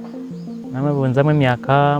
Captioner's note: speaking foreign language